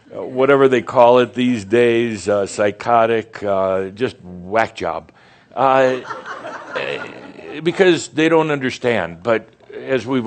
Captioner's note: more chuckles